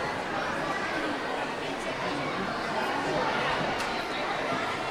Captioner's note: audience chattering continues